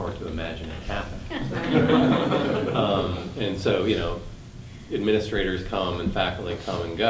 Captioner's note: class laughing